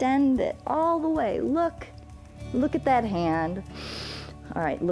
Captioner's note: inhales